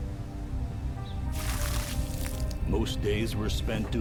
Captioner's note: water splashing